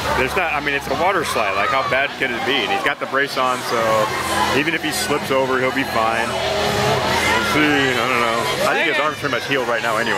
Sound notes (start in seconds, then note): 6.5 chattering